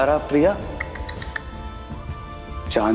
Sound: clicks tongue

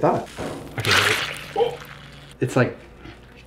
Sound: juice squishing

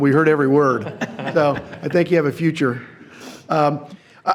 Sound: everyone laughs

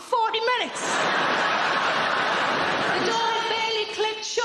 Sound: audience laughing

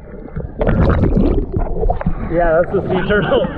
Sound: water bubbling

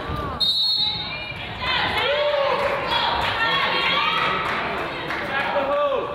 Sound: whistle blows; coach yells

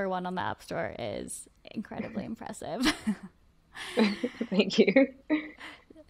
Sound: both chuckle

